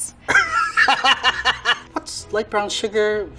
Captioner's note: laughing